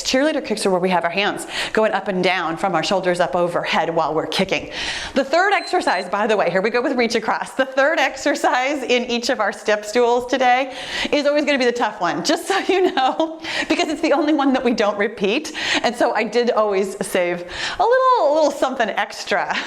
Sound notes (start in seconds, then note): 5.3 timer beeps; 12.9 giggling